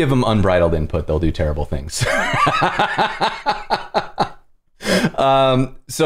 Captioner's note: laughter